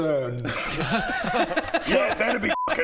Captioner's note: laughs in 'well duh'